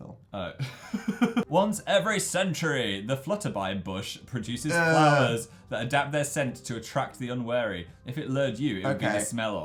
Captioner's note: laughs; dramatically